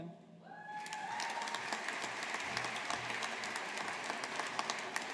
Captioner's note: audience applauding